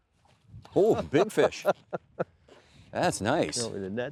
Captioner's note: laughing